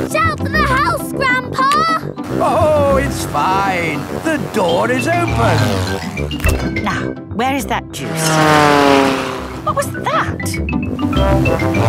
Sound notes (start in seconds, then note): 8.0 plane flies